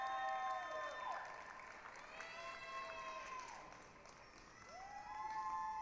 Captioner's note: applause, cheering